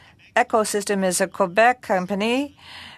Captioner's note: speaking french